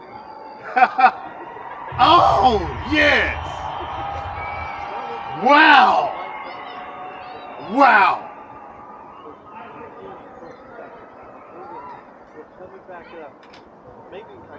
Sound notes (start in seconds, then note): 1.9 crazy man still exciting and screaming, lol; 5.4 crowd cheering